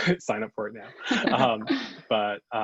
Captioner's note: both laugh